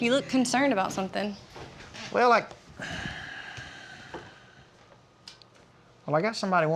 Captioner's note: sigh